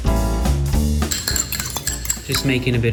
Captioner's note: upbeat jazz music; stirring sound